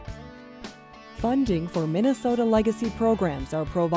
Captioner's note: voiceover